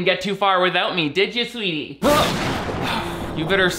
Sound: gasps

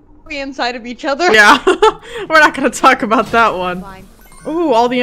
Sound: both laugh

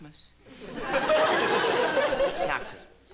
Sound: laughter

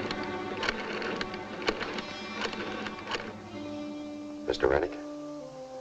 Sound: rotary phone dialing

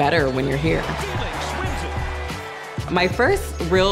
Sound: sporting event broadcasting

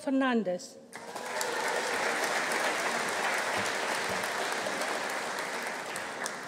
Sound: audience applauding; audience cheering

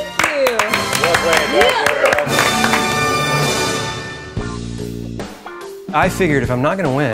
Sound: applause

